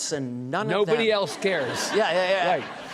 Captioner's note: audience laughing